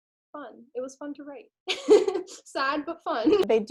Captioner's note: laughs